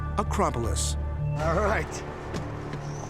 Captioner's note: chuckles